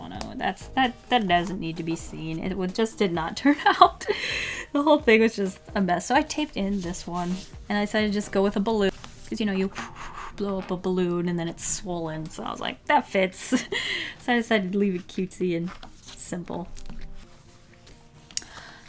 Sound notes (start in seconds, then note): 9.5 airsounds